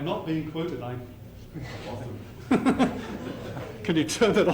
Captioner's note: laughter